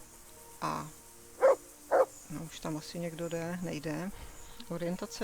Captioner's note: dog barking